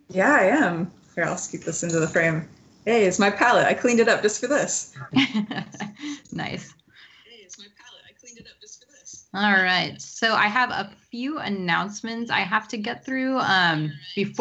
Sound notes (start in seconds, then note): 4.9 laughs